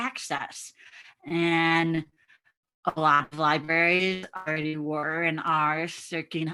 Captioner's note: audio muffling